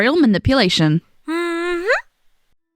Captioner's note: happy hum